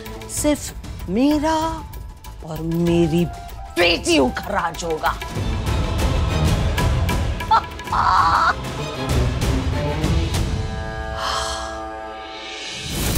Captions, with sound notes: ... will be ruled by my daughters and I. [dramatic music playing] [laughing] [sighs]